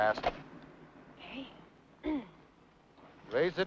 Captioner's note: clears throat